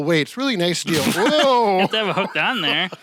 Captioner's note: snorts and laughs